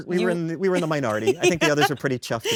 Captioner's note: laughs